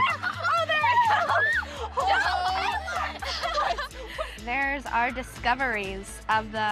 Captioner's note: all laugh